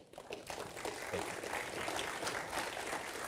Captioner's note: applause